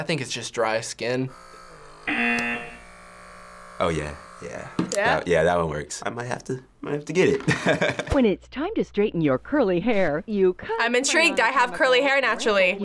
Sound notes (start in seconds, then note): 7.4 laughing; 8.2 voice-over; 12.7 voice-over